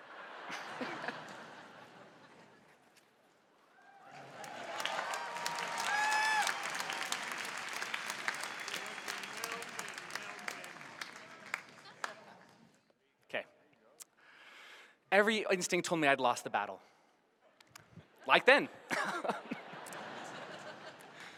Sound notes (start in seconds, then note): 0.0 laughter; 5.9 cheers and applause